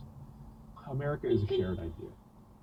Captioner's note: beepbeep